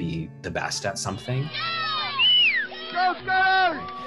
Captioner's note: cheering